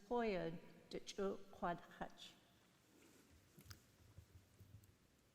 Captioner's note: speaking in foreign language